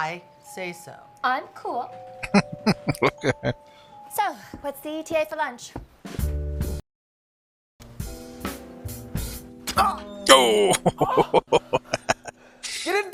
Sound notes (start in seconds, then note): 2.2 laughing; 10.3 laughing and Cringing